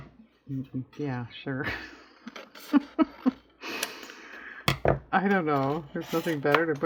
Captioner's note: laughs